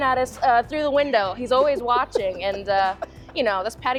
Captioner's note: laughs